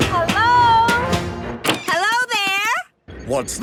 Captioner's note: none